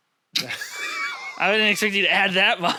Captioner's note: laughs